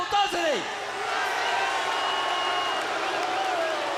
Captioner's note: crowd jeering